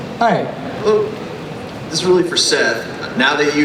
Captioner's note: voiceover